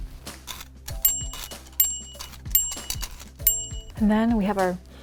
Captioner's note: bell ding; truffles rustling